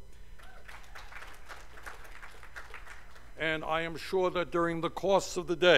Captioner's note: cheers and applause